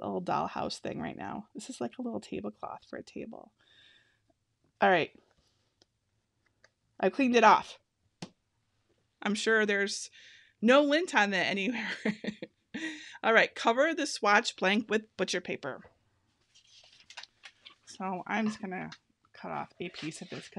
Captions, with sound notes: a little dollhouse thing right now. This is like a little tablecloth for a table. All right, I've cleaned it off. I'm sure there is no lint on there anywhere (laughing). All right, cover the swatch blank with butcher paper. (paper rustling) So I'm just gonna cut off a piece of this